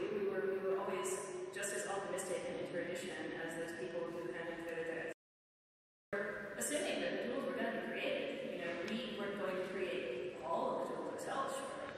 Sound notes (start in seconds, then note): none